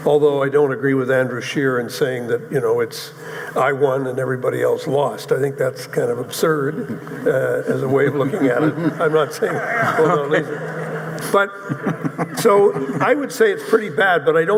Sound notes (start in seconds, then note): 9.3 audience chuckling